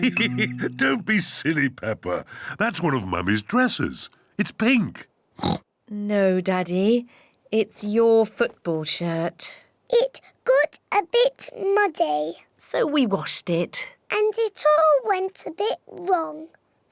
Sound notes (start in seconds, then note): 0.0 laughs; 5.4 oinks